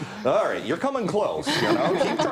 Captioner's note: laughing